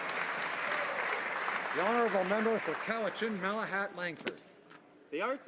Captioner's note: applause